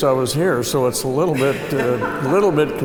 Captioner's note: laughter